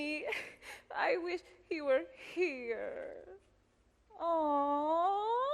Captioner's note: whimpers